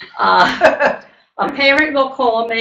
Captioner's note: laughter